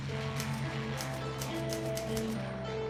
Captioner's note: typewriter keys clacking; rock music starts